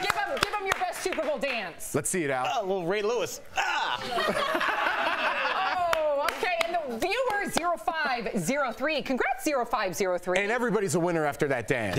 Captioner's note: applause